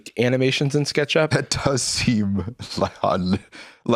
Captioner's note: laughs